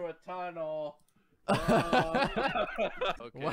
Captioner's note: both laughing